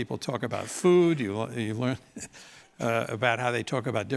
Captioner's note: laugh